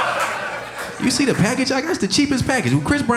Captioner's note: audience laughing